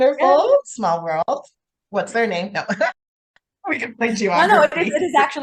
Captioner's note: laughs